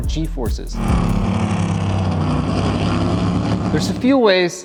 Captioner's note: engine revving